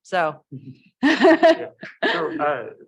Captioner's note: laughs